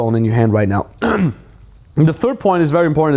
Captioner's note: clears throat